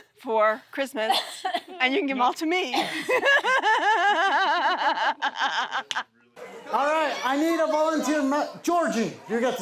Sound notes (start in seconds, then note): 2.8 laughs